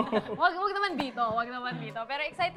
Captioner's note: chuckles